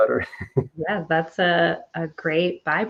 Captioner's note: chuckling